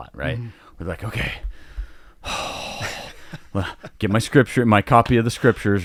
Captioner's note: sighing